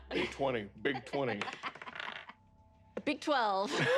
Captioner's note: laughs